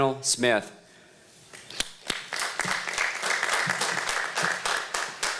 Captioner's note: applause